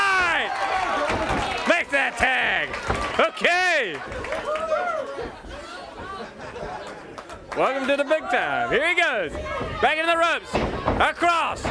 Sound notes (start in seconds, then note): 4.5 crowd cheering